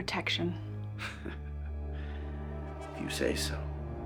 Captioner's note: CJ chuckles